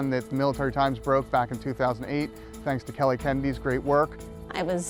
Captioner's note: voiceover